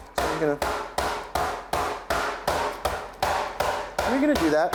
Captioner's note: mallet smashing